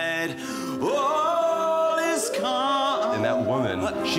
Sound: dogs howls

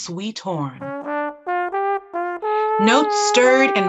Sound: horn

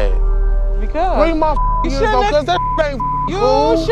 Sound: beep

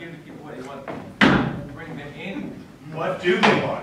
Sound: stomping foot

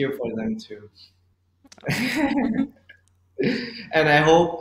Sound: adorable giggle

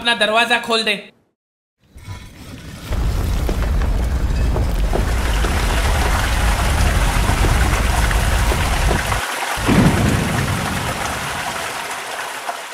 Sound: cave and Thundering sound

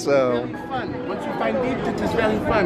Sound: with a French accent

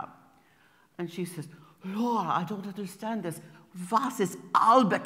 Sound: imitating Frauke's German accent; pronouncing in German

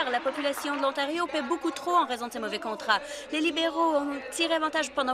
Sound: applause

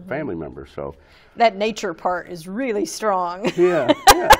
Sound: laughs

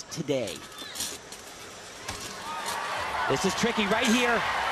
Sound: audience cheering

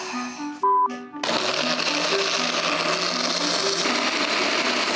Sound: sighs; blender whirs

